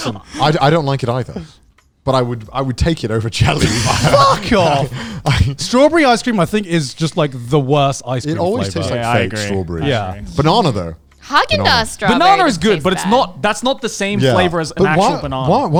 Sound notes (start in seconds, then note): 3.4 men laughing